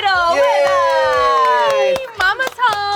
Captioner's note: all cheering